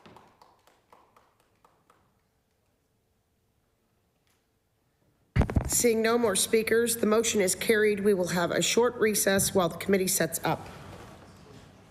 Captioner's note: applause